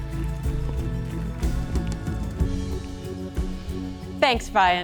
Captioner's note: applause